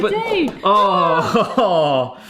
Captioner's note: exclaim